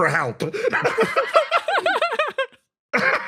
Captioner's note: laughs; laugh